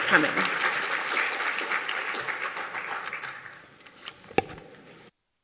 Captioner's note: applause